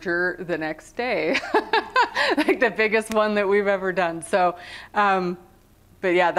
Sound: laughter

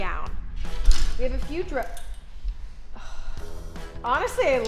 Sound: sighs

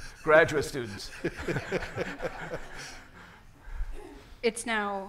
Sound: everyone laughing

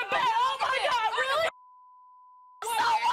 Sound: beeping; screaming

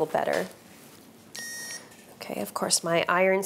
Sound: iron beeps

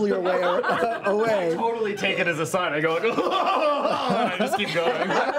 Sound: goofy giggle

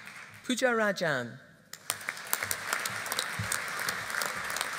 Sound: audience applauding

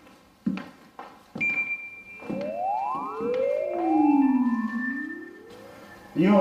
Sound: footsteps; high pitch sound

